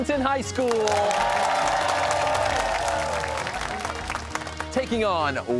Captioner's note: cheers and applause